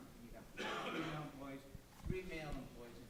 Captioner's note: coughing drowns out speaker